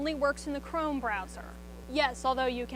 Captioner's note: student speaks faintly